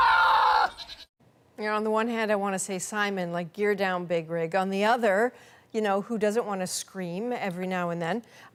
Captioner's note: goat screaming